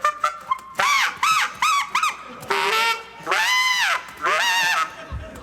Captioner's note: animal noises